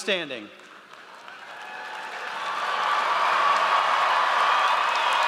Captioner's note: audience cheers